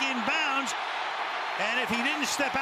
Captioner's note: cheering